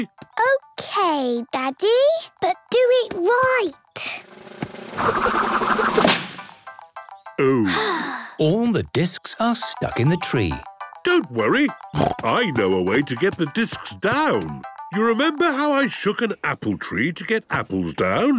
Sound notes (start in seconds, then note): 4.2 drum roll; 7.4 Peppa sighing